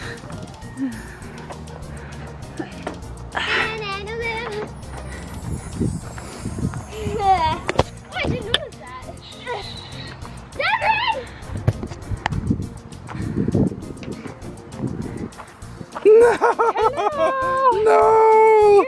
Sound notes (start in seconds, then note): 16.0 laughing